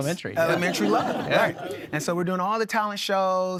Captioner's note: audience laughing